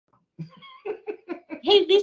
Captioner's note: laughing